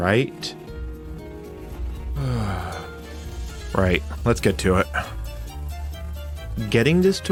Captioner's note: long suffering sigh